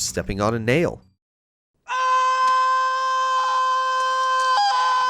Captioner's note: screams